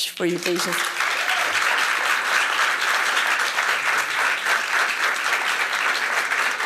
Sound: applause

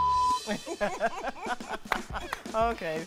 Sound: laughs

